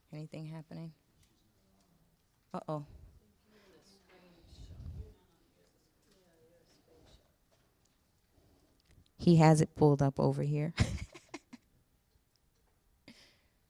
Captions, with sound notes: Anything happening? Uh-oh. - You're in the screenshot. - He has it pulled up over here. (laughing)